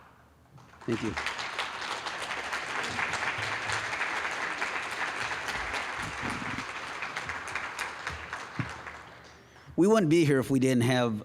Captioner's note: applause